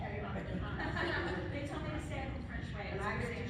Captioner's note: laughing